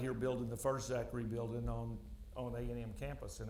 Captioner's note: none